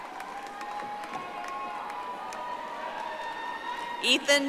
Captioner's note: audience applauding